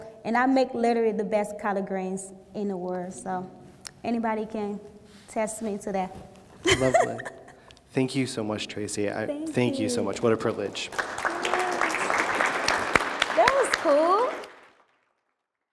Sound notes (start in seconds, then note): 6.6 laughs; 9.9 applause